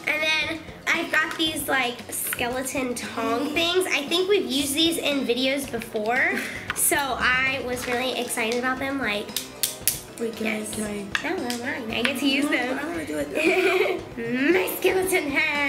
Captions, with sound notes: And then I got these like, skeleton tong things. I think we've used these in videos before. So I was really excited about them like (hands clicking) - Wait, can I -- - No their mine, I get to use them. - I wanna do it though. - My skeleton hands.